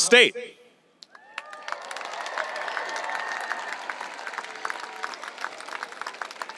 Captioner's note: audience applauding and cheering